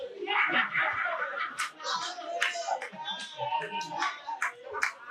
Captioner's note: audience laughing and talking